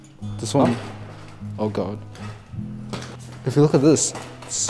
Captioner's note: tile cracks